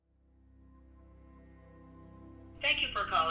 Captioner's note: on phone